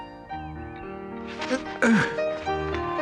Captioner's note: struggles